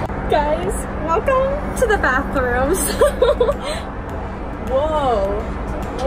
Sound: laughs

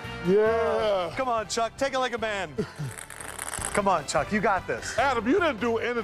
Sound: laughter

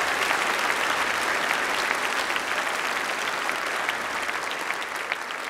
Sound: applause

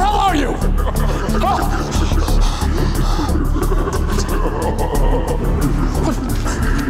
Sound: Carlo laughing; detective shouts

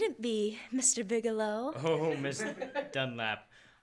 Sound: laughter

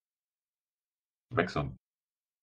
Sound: fast Pronunciation

